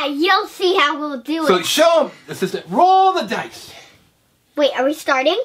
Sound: voiceover

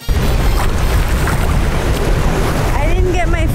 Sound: upbeat music; water splashing

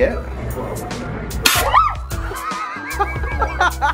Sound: screaming; laughing

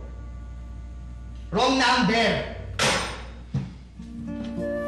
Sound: phone slams

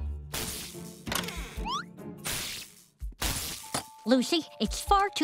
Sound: electricity crackling

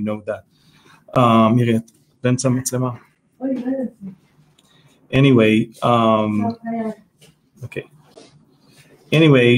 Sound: speaking Hebrew

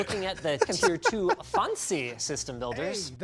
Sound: laughter

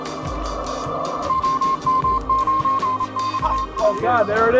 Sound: morse code beeps

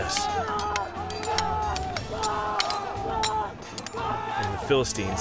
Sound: men shouting

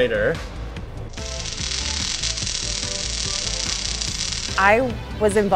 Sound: robotic voice; fast-paced music continues; tool crackling

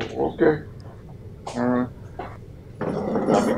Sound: muffled chatter

